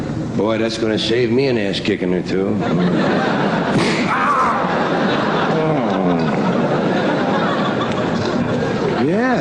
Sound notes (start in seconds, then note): 3.7 sound of being smacked